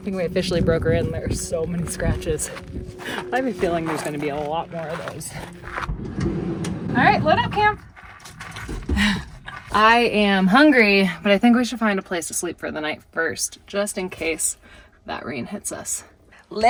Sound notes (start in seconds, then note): 4.8 door scrapes